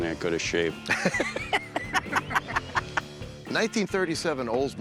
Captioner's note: laughter